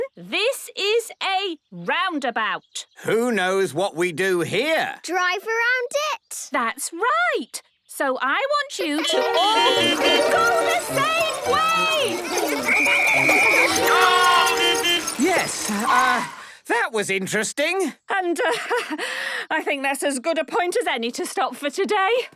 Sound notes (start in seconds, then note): 9.0 beeping; 12.6 whistle blowing; 14.5 beeping